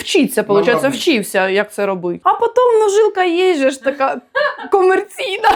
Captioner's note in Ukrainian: сміх